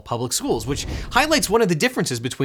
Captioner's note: air whooshing